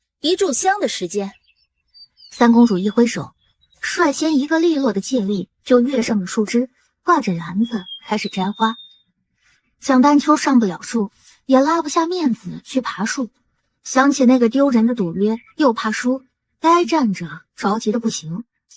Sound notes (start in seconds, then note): none